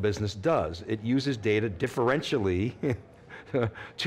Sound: chuckles

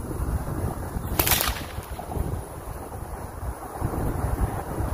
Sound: whip cracks

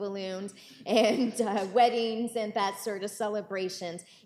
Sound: chuckles

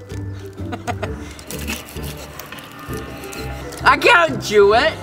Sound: laughing

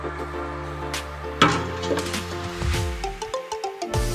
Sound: pot tinkling

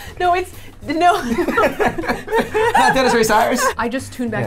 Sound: laughs

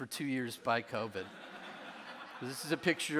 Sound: audience laughing

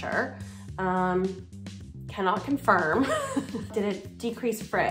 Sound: laughing

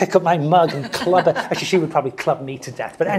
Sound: laugh

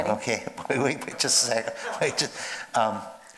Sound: laughs

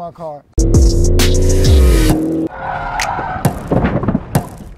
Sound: engine revving

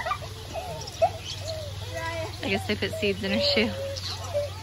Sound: kids laughing

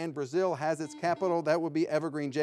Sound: buzzer ringing

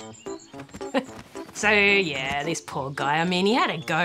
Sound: chuckles

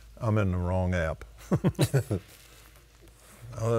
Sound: laughing

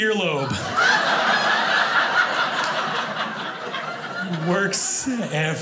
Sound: audience laughing

